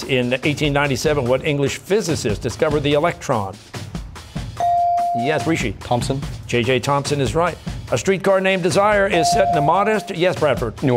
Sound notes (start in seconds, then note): none